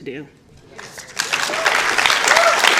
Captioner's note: applause